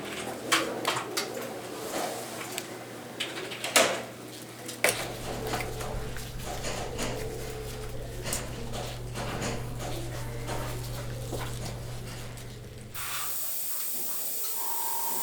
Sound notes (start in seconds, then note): 0.2 clattering, quiet babble of voices in the background; 12.9 hissing